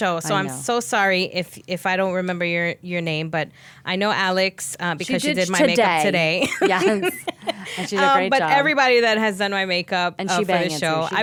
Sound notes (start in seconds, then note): 6.4 laughing